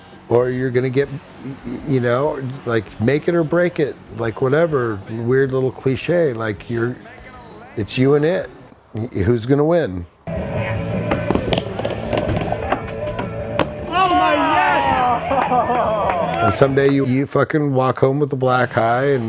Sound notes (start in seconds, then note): 10.0 wheels screeching; 14.8 spectators cheering